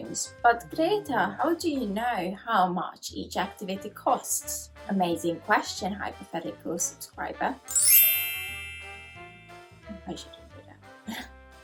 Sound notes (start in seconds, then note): 7.7 wink sound effect